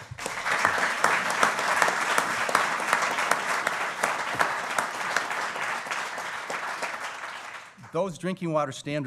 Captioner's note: applause